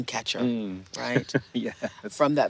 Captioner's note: chuckling